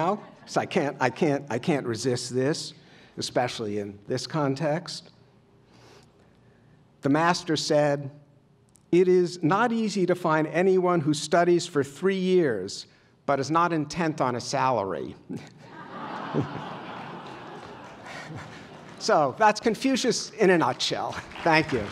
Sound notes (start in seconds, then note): 15.6 laughter